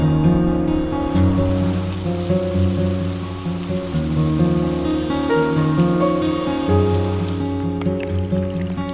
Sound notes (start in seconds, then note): 1.2 rain